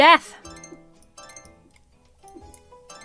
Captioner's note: creatures tinkling